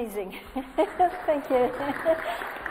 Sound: audience applauds

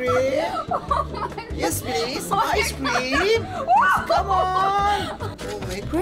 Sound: laughing and screaming

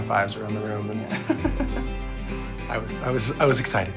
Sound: laughs

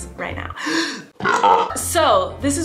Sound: belches

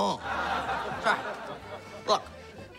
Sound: chuckles

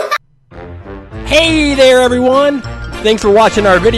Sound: voiceover

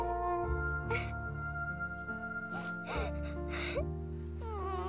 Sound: sobbing continues

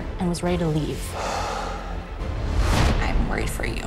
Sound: exhales deeply

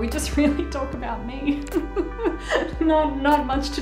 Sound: laughing

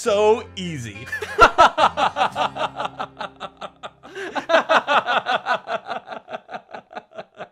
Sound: laughing loudly

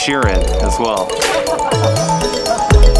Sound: laughs

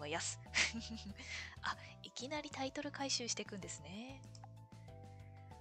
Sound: laughs

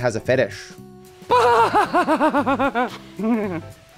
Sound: Trevor laughs like a clown

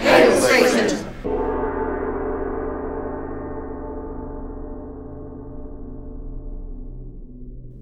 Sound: bell tolls

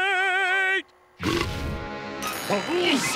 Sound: singing; belching

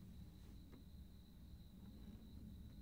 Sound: none

